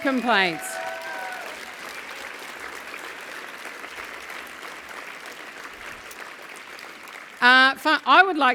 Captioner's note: applause